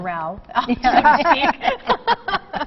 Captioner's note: laughter